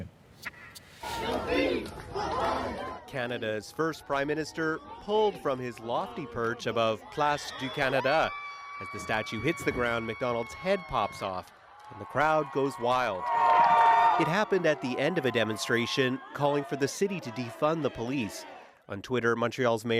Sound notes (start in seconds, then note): 3.6 chanting